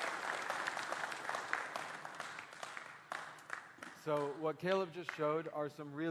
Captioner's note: applause